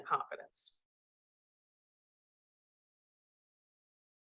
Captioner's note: audio cuts out